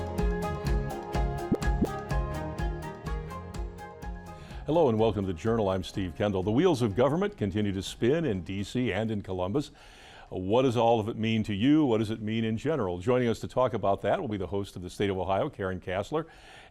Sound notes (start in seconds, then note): 1.3 graphic pops; 2.9 upbeat music continues